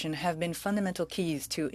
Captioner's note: speaking French